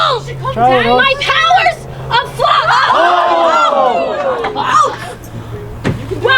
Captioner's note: audience gasping